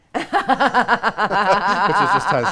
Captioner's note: laughing